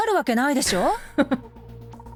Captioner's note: chuckles